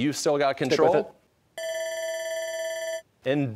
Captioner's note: bell ringing